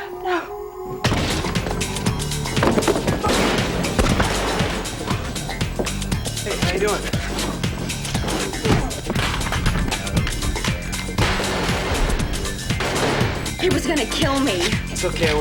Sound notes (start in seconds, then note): 0.8 fast-paced music; 3.2 guns firing; 11.1 guns firing